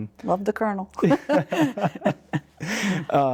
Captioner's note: laughing